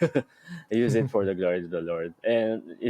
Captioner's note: chuckles; laughs